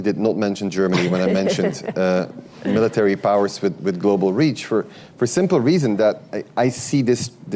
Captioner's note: laughter